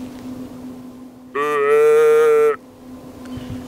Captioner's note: blowing on grunt call